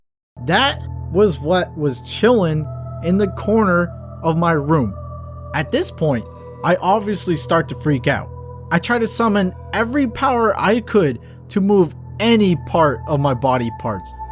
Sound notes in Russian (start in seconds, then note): 8.0 взволнованный